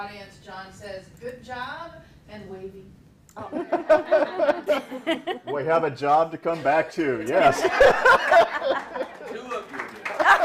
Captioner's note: laughing and clapping